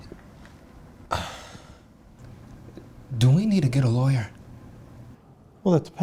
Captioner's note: sighs